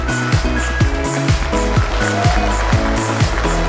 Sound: applause

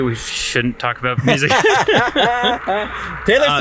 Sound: laughing

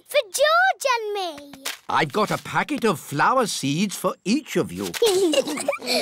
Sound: both giggling

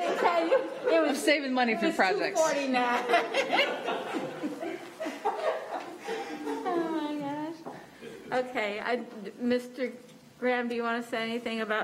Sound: laughter

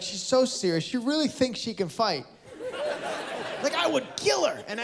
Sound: laughter

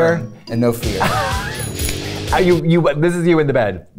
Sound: laughs

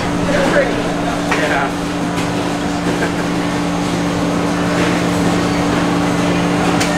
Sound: chuckles

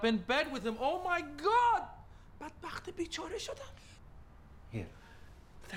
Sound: speaking foreign language

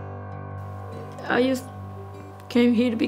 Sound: tearfully

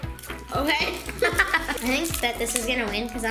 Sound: giggles

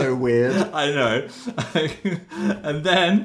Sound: laughs

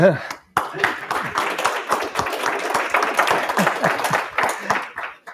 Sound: applause

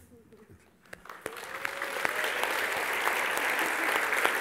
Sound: applause

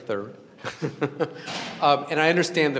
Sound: laughs

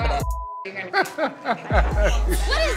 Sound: laughs

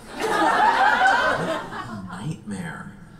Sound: audience laughs

